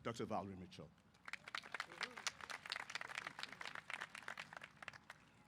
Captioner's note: applause